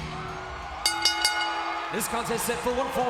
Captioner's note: bell rings